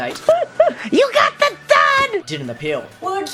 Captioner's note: laughing